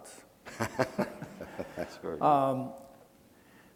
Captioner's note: laughing